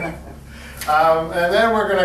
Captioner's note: both laugh